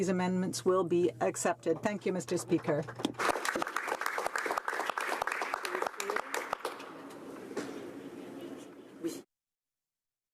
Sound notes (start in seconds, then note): 8.0 applause